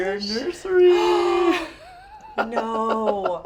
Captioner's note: gasps; laughs